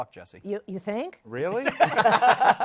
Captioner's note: laughter